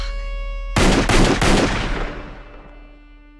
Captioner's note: 3 gunshots; orchestral film noir music continues